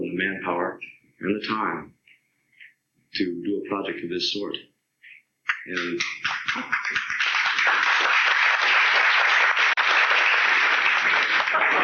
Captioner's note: applause